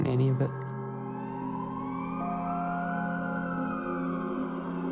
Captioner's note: siren howls distantly